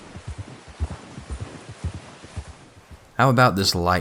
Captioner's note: sounds of horse steps in snow